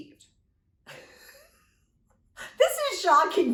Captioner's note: laughs